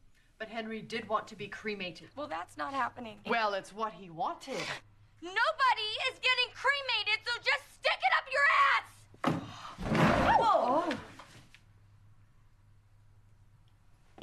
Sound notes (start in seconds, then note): none